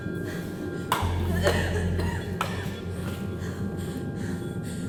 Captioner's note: coughing; gasping; tense ambient music